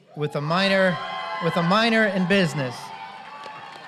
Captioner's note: applause